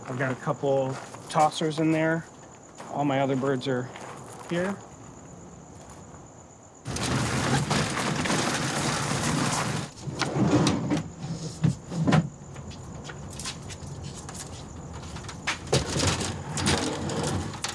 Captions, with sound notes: I've got a couple tossers in there. All my other birds are here. (crickets chirping) (crates rumbling) (crates rattling and rumbling)